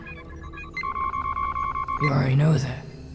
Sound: computer alert

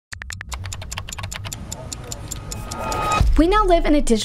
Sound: keyboard clicking

